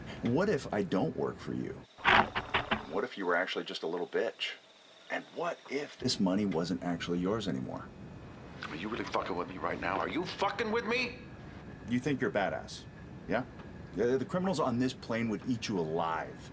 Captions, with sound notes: What if I don't work for you? (The Rumble sputters, agast at this treasonous suggestion) What if you were actually just a little bitch? And what if this money wasn't actually yours anymore? Are you really fucking with me right now? ARE YOU FUCKING WITH ME? You think you're badass... yeah? The criminals on this plane would eat you alive.